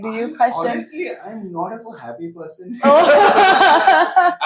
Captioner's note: laughs